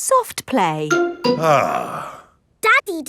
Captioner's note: sighs